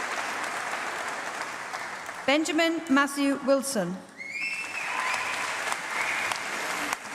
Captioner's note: applause